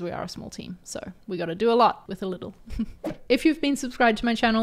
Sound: chuckles

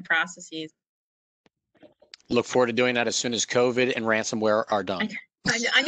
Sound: laughter

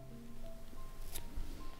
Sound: snip

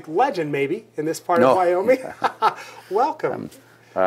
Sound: laughing

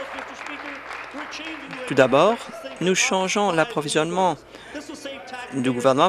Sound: applause

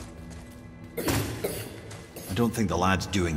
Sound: coughing

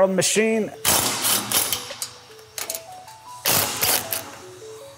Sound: driver whirring

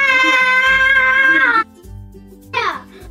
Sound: laughs

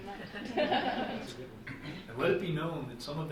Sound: group laughing

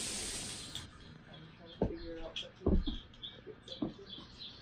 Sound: bird sounds on TV

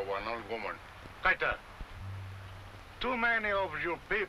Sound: speaking foreign language

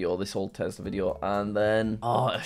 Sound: groans

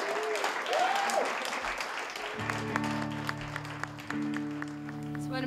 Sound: applause

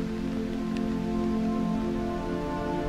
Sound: sounds of rain

